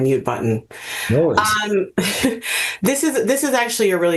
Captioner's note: chuckles